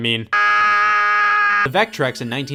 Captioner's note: screams